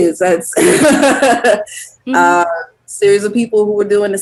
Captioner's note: laughs